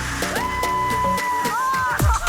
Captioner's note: screams